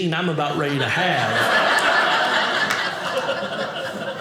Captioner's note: audience laughing